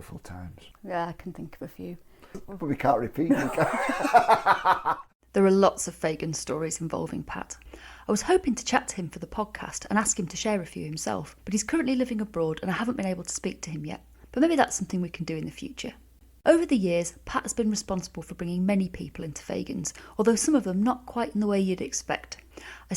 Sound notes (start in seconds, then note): 3.3 laughs